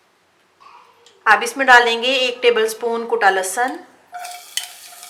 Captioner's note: crushed